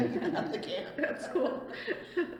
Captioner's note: laughs